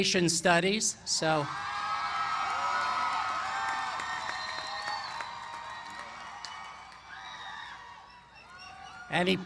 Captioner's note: cheers and applause